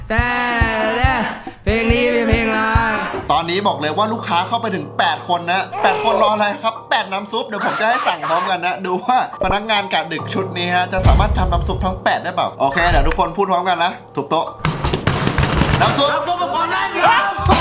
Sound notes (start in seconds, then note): 12.6 radio; 14.6 slamming